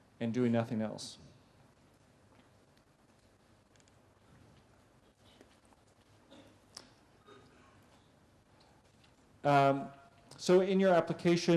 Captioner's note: pause